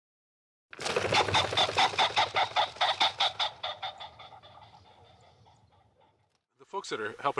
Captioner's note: sounds of birds flying and pheasant calls